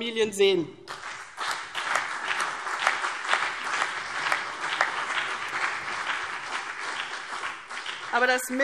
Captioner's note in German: Beifall CDU und BÜNDNIS 90/DIE GRÜNEN